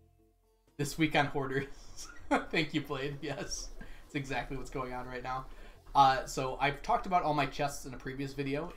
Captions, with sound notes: "This week on Hoarders." Thank you, Blade. Yes! (laughs) That's exactly what's going on right now. So, I've talked about all my chests in a previous video,